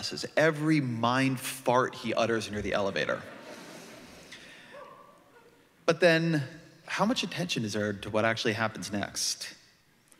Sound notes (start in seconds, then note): 2.9 laughter